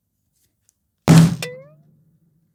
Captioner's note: whack; boing